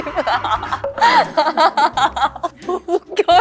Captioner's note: cracking up alone